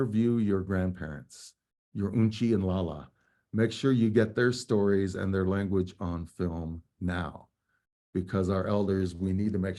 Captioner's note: speaking native language